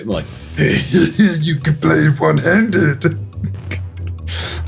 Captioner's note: Jabba the Hutt style voice